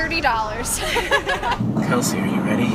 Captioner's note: laugh